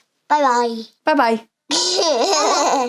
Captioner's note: laughing